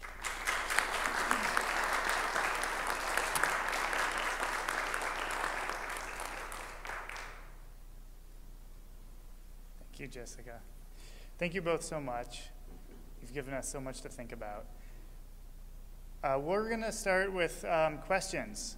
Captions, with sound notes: (Applause) >> Thank you so much. You gave us so much to think about.